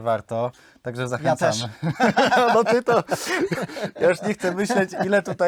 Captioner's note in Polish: śmiech